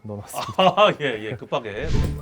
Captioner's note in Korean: 웃음; 익살스러운 음악